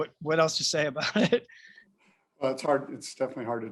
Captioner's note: laughter